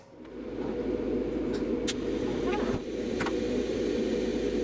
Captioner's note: machine closing